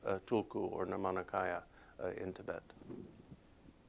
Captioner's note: non-english speech